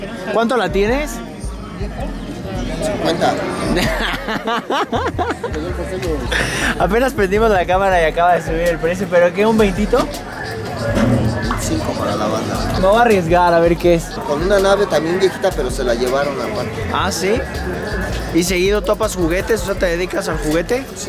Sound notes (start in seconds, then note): 3.6 huge laugh